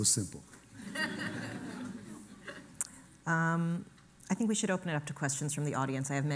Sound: laughter

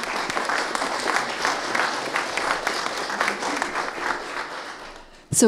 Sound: audience applauding

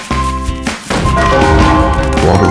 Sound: A door kick with a bell

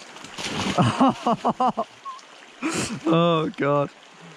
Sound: softly laughs

